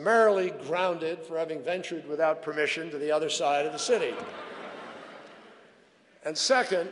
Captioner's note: laughter